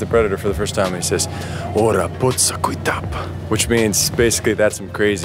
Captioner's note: speaks comanche